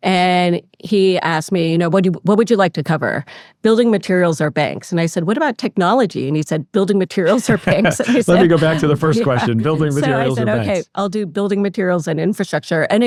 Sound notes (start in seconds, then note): 7.2 laughs